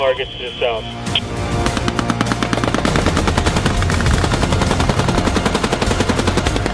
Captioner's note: dramatic music; weapons firing